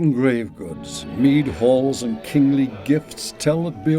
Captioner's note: villagers chattering